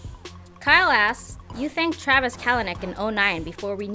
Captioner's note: voiceover